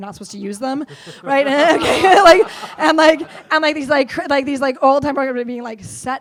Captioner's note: laughs